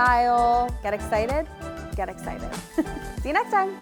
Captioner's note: chuckling